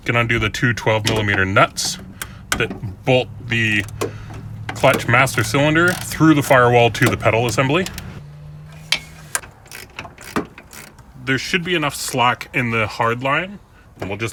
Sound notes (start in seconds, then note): 8.6 ratcheting